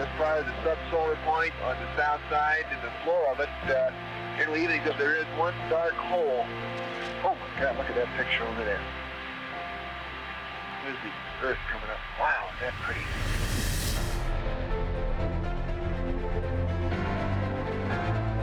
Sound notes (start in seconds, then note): 12.3 swooshing; 15.4 uplifting music